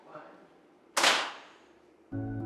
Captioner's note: camera flashes